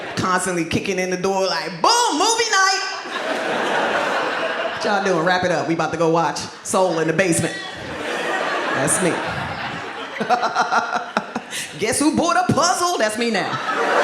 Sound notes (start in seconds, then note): 2.9 audience laughs; 10.4 laughs